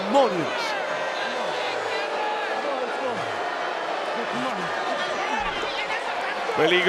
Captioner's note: applause